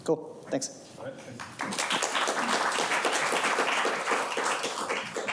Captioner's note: audience applauding